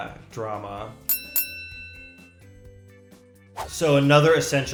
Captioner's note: ring bell chimes